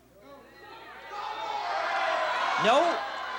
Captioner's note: crowd clamoring